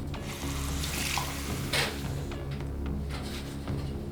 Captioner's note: pouring water